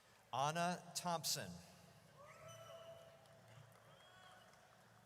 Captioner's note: audience cheers